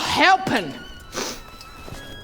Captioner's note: sniff